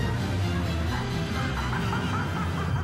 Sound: Joker laughs

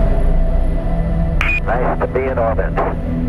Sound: radio voice 4

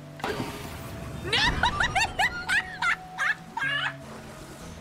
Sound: laughter

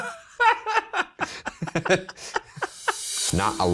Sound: both laughing

